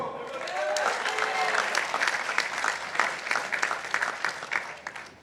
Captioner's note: participants applauding